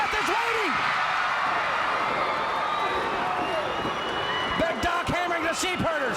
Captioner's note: crowd cheering